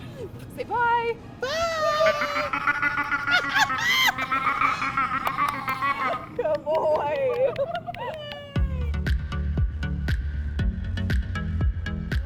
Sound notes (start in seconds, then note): 3.7 laughs; 8.9 upbeat electronic music